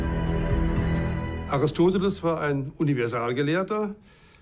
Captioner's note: in German